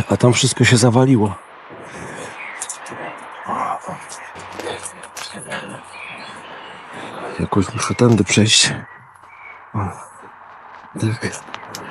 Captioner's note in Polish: Aplauz